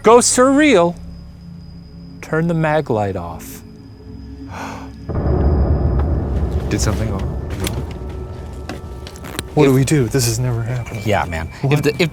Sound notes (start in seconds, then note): 4.4 gasps; 4.8 dark music